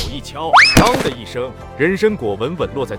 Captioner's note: thump